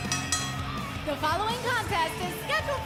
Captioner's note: bell ringing